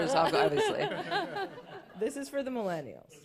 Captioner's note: laughter